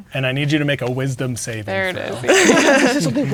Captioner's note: laughing